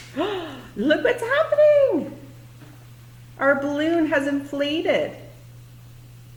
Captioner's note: excited voice; balloon starts to inflate